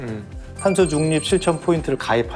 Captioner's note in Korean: 반짝이는 효과음